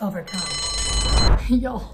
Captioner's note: bell rings